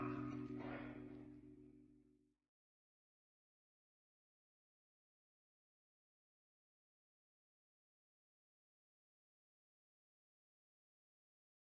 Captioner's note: silence